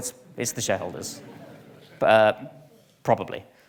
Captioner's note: audience laughs